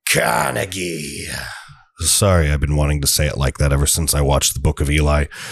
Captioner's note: bad guy voice